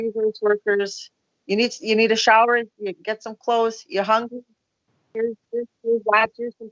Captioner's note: audio echo